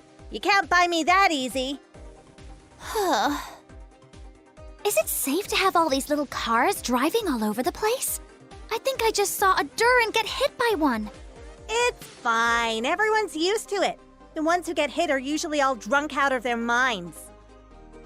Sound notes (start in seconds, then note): 2.8 sigh